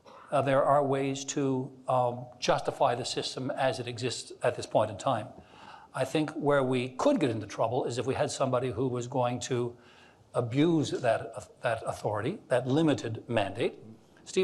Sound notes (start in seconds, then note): none